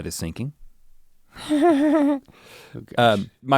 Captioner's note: chuckles playfully